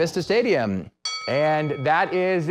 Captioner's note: ding